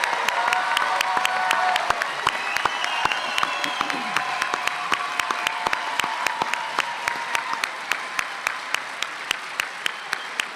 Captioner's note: applause; cheers